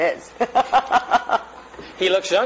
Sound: laughter

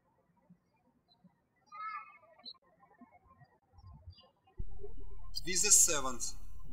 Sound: birds chirping

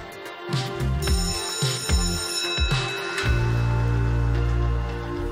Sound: school bell rings

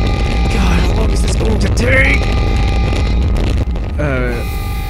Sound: loud low crackle; crackle fades

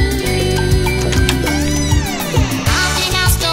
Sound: door opens

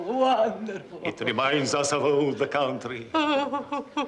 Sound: sobs

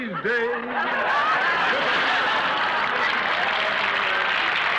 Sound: audience applauding

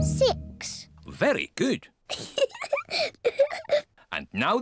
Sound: laughs

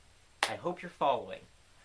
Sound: clap

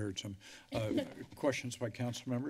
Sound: laughter

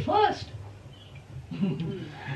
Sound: laughter

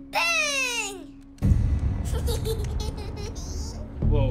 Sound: giggles

